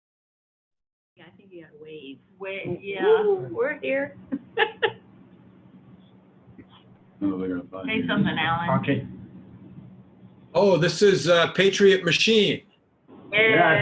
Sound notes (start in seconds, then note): 4.2 chuckles; 7.6 crowd mumbling; 13.2 crowd mumbling